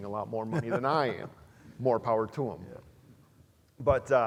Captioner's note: laugh